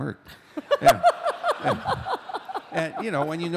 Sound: laughter

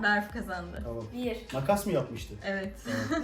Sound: chuckles

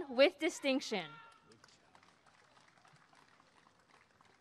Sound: applause and cheering

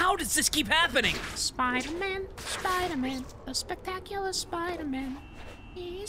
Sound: shrill voice

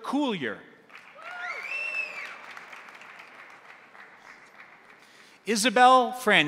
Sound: crowd applauding; crowd cheering

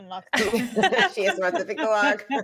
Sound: group laughing

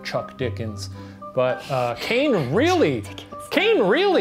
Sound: laughing

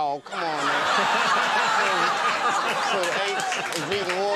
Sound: audience laughing

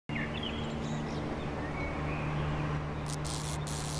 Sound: birds tweet; electricity crackles

